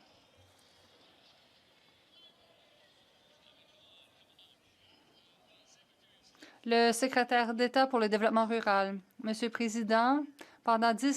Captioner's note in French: voix de l'interprète